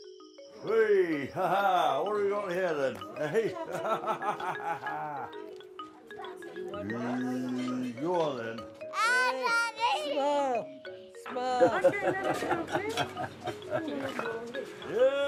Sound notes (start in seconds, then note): 2.9 laughs; 8.9 child shouts; 11.5 guy laughing; 12.1 people chattering